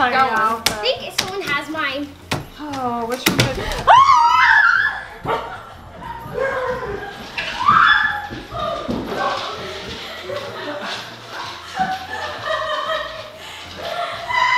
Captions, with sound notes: - I think someone has mine. (screaming) (laughing)